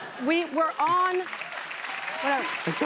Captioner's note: cheers and applause